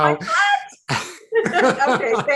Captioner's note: laugh